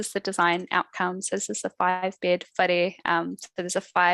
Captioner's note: non-english speech